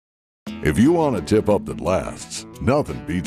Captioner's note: voiceover